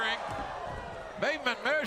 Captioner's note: crowd cheering